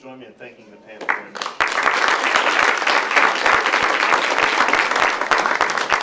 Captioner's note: applause